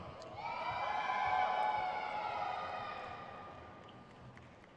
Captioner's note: crowd cheers